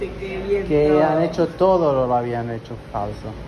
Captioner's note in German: auf Spanisch